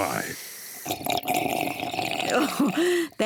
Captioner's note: slurps